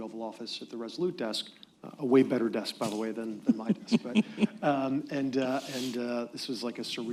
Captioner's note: laughter